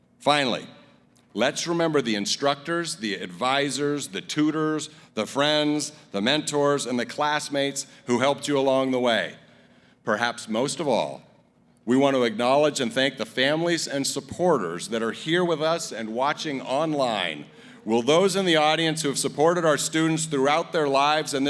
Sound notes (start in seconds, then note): none